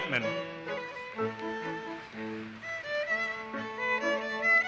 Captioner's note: audience applauses